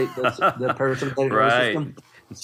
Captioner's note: laugh